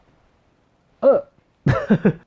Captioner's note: laughs